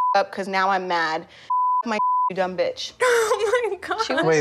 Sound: beep; laughs

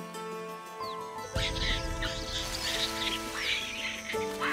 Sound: birds squawking

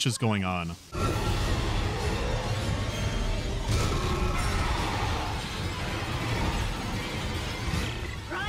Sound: screams, dramatic music, vents breaking

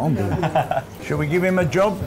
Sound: laughs

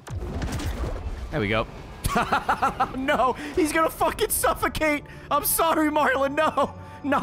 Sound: laughs

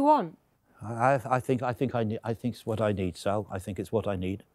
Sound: stammering

